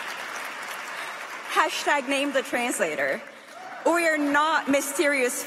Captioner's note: applause